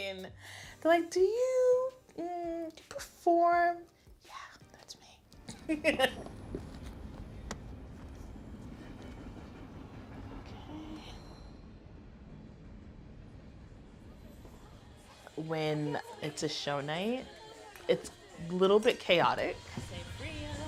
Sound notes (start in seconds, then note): 0.3 higher voice; 3.8 whispers; 5.5 laughs